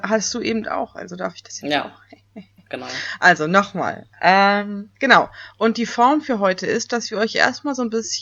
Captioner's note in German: lacht fies